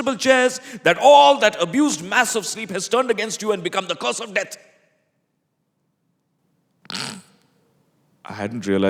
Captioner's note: chuckles